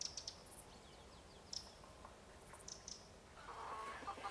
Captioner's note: birds tweeting